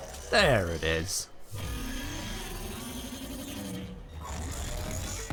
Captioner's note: jackal roars